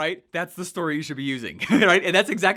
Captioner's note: laughs